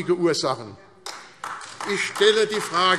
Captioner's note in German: Beifall AfD